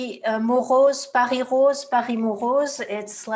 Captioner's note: speaking French